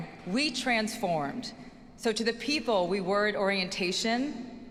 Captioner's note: none